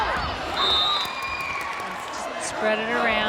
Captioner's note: whistle blows